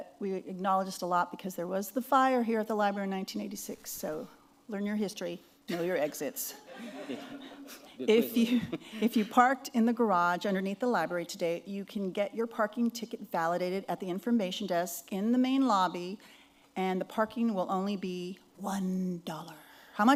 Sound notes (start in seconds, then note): 5.7 laughter